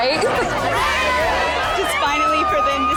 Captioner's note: women cheering